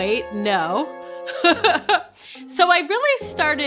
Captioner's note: laughing